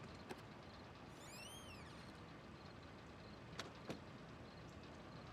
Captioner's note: door creaking